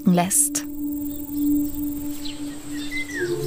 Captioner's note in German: Vogelzwitschern